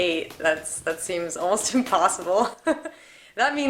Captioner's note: chuckles